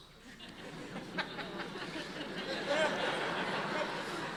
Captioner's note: audience laughing